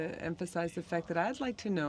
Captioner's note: speaking French